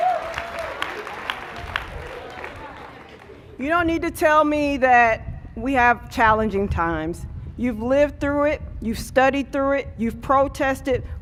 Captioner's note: cheers and applause